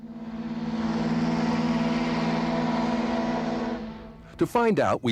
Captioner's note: ship horn